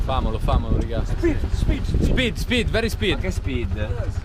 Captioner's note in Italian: Inglese